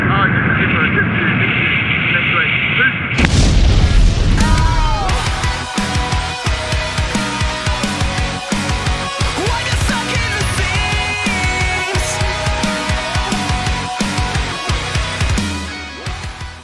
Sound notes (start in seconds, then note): 3.1 explosion; 4.4 emo music